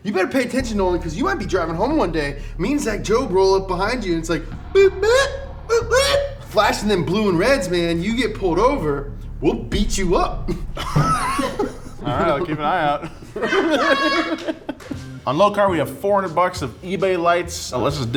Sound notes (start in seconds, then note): 5.3 funny beeps; 10.4 both laugh